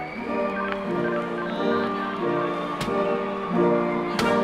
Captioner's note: electronic beeping